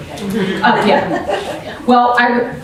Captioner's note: laughing